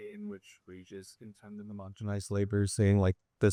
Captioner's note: student speaking faintly